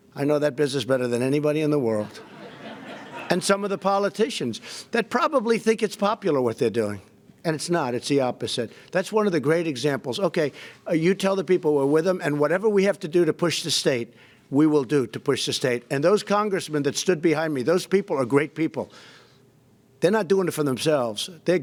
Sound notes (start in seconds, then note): 2.0 laughter